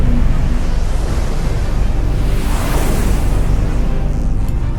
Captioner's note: spacecraft whooshing; spacecraft whirring